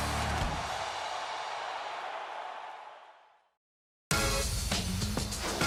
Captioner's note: cheers and applause